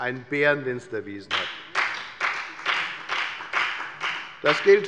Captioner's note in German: Beifall bei der FDP